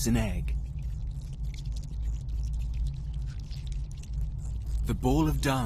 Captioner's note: insects skittering